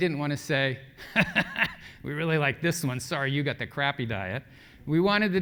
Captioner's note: laugh